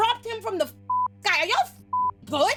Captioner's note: beep